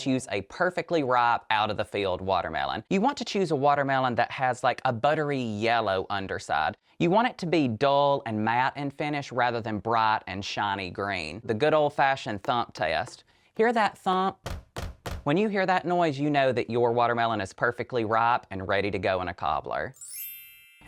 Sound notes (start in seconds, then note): 14.4 door knocking